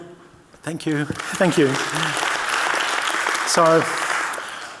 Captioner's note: audience clapping